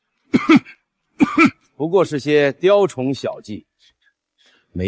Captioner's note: cough